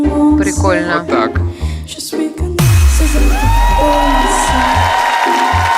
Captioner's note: judges speaking in a different language; crowd cheers